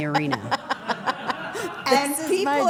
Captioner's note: everyone laughs